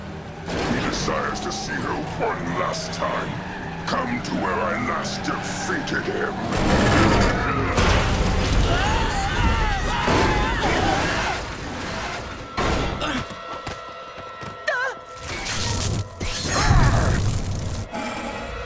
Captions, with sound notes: If he desires to see her one last time, come to where I last defeated him. [thudding] [screaming] [grunting]